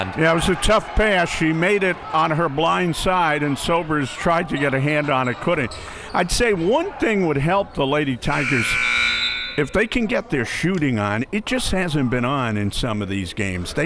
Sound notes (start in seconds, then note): 8.2 buzzer blares; 8.3 whistle blows